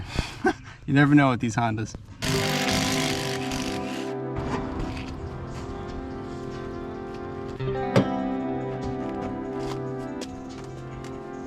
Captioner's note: haha